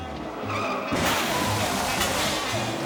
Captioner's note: vehicles skidding and crashing; melodic music